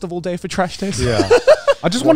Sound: laughing

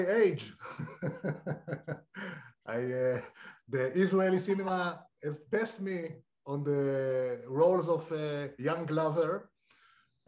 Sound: laughter

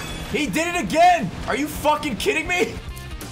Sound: none

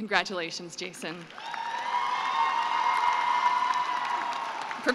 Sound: cheering and applause

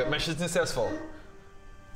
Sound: woof

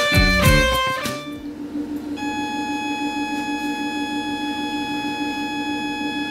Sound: high pitched tone from machine

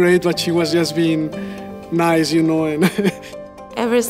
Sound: laughs

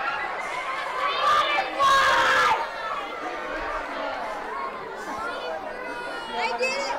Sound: chattering

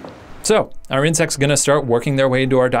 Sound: voiceover

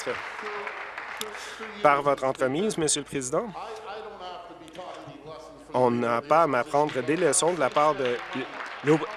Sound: applause

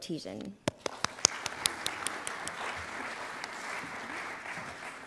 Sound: audience applauding

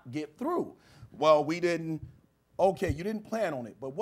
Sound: imitating customer service guy

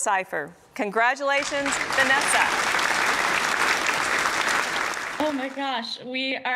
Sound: applause

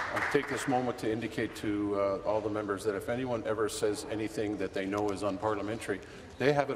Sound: applause

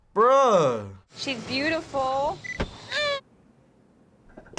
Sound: baby cries

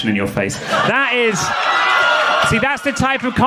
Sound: audience laughing

